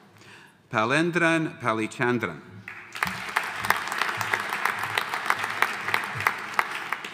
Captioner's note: audience applauding